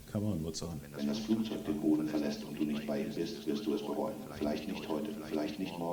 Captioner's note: foreign language 00:23:02